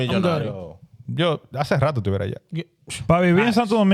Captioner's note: speaking In Foreign Language